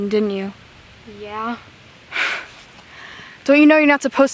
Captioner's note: scoffs